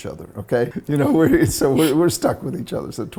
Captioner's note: giggles